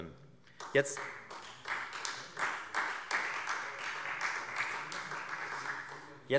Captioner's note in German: Beifall Freie Demokraten